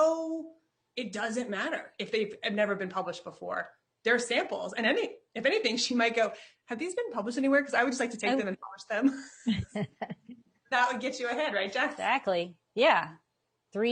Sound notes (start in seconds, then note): 9.2 chuckling; 9.4 laughs